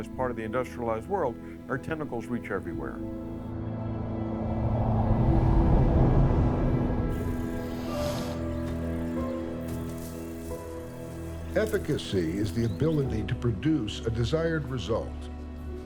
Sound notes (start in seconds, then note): 3.7 wind whistles; 7.1 birds chirp